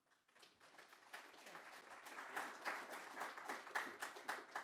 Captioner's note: audience clapping